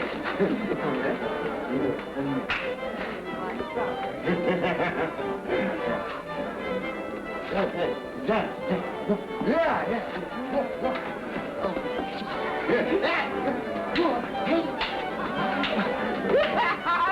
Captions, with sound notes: You and me. (laughing) Yeah, yeah. (clapping hands) Hey.